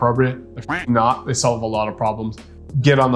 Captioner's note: duck quacking